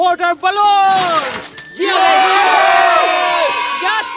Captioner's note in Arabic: صراخ